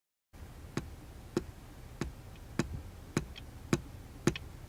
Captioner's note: shoe thudding